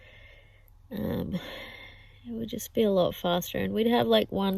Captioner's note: sighs